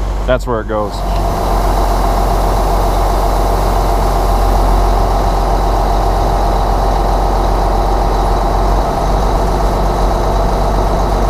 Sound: engine noise

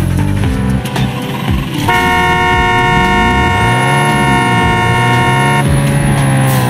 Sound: car engine starts up; prolonged car horn due to lag

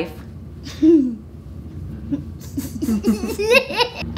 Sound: laughing

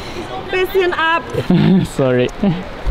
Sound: speaking foreign language; laughing

